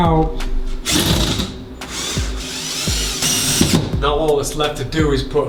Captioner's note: drill whirs